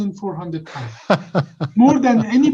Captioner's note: laughs